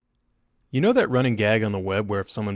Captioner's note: voiceover